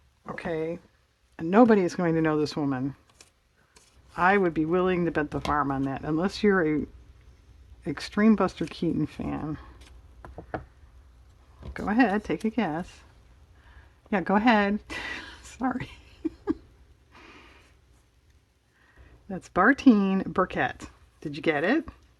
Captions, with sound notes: okay and nobody is going to know this woman I would be willing to bet the farm on that unless you're an extreme Buster Keaton fan go ahead take a guess, yeah go ahead (laughs), sorry that's Bartine Burkett, did you get it?